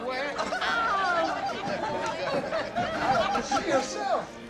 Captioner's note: laughter